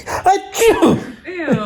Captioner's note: man sneezes